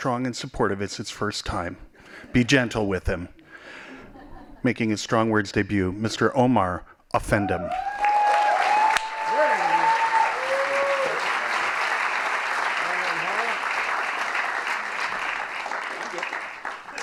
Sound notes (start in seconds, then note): 3.8 laughing; 7.6 applause